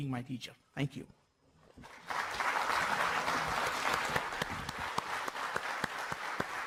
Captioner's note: applause